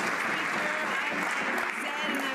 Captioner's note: some Applause